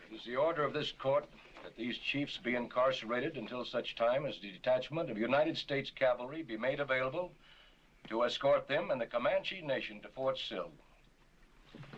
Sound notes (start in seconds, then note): none